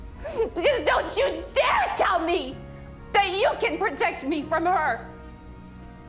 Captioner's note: shouting